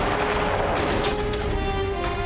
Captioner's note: gunshot